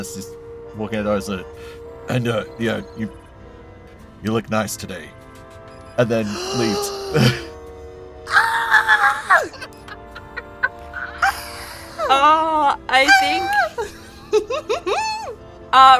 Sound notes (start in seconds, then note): 6.3 gasps; 8.3 squeals; 12.9 chuckles